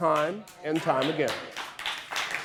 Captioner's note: audience applause